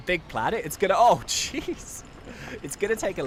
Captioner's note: laughs